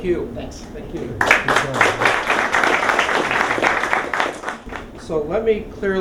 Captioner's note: applause